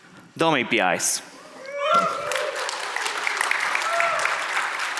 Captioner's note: audience applauds